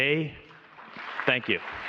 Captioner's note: applause